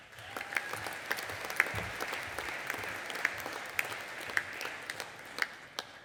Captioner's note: audience applauding and cheering